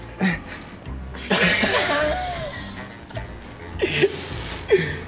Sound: both laugh

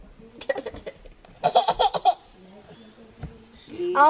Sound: giggles

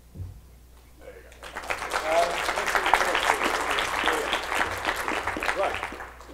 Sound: clapping

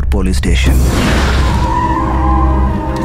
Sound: tires screeching

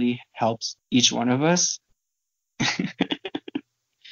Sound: laughing

